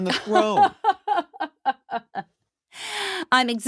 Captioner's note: laughing